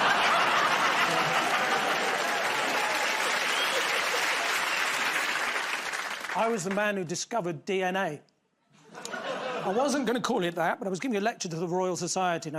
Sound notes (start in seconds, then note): 0.0 laughter; 2.4 cheers and applause